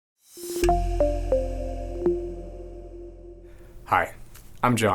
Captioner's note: logo sound effect